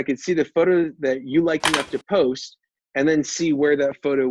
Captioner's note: camera click